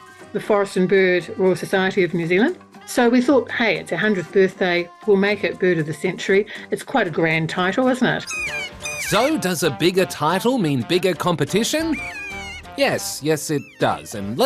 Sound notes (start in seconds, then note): 8.3 cawing